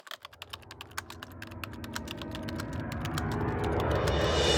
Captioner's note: typewriter sounds